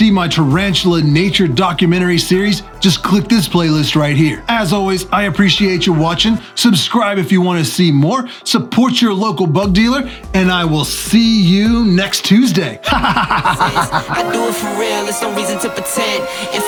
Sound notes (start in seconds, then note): 12.8 techno music; 12.8 laughs loudly